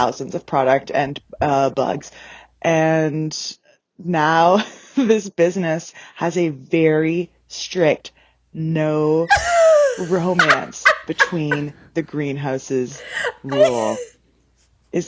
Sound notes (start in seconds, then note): 12.8 laughing; 13.3 cackling